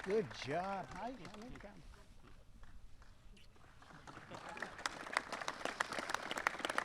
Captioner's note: applause